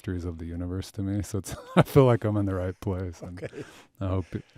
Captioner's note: chuckles